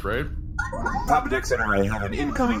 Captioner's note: communicator chimes